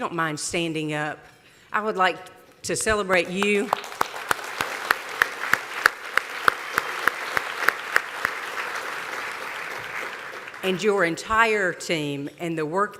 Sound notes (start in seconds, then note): 6.1 applause